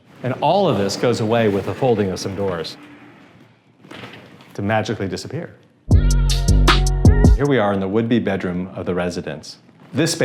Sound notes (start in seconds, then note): 3.1 door sliders rolling softly; 5.9 soft pop music